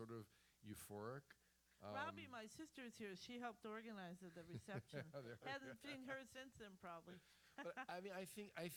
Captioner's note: laughs